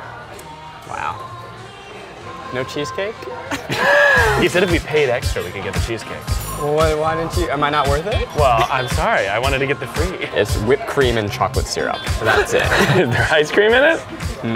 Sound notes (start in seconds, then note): 3.4 laughs; 12.2 laughs